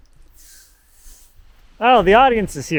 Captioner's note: hand scraping; chuckles